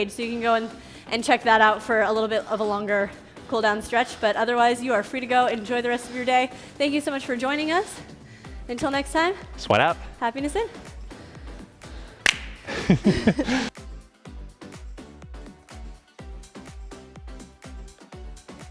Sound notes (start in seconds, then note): 12.6 laughing; 14.1 upbeat music